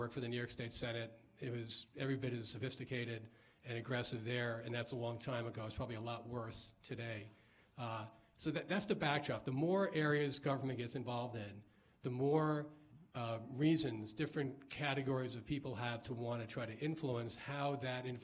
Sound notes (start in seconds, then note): none